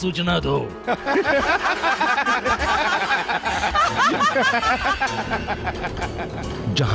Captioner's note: everyone's laughing